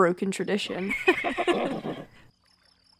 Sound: giggles

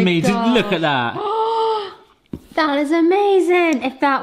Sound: gasps

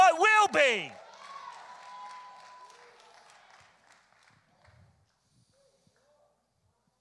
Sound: congregation cheers and applauds

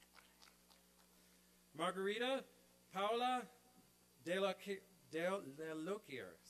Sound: applause

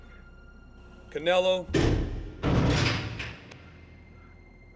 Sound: clanking

